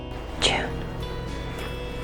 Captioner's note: voiceover; whispering